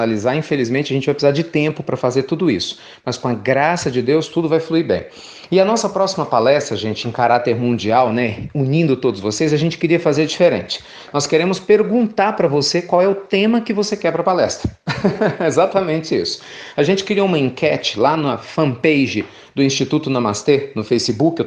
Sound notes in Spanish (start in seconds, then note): 14.7 risas